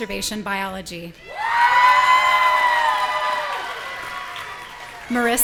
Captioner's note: audience cheering